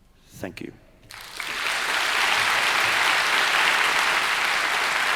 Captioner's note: crowd applauds